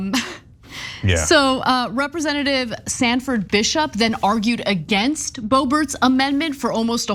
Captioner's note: laugh